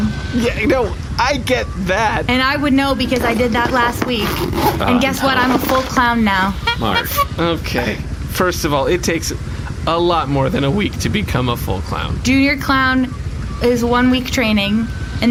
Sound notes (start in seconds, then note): 7.1 honks horn